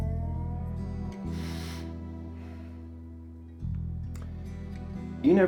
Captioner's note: sighs